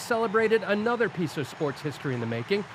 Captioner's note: cheers and Applause